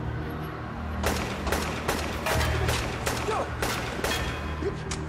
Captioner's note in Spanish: Disparos